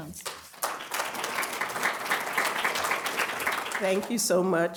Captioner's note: applause